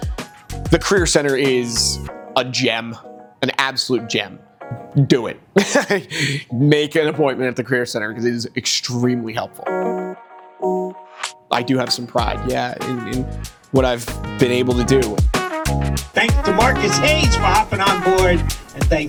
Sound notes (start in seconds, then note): 5.6 laughs